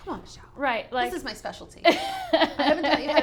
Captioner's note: laughs